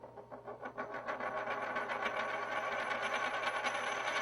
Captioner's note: coin wo bbling